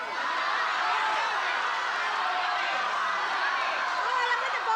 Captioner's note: audience shouting